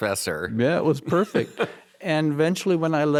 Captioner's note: laughs